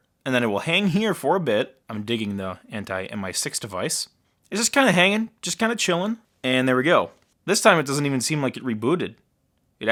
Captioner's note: none